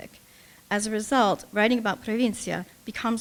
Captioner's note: speaking russian